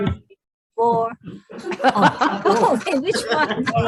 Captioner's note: all laughing